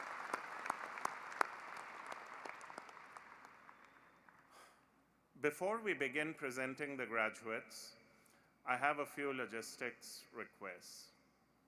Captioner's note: cheering and applause